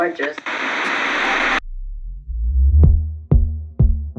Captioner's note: static crackling; dynamic music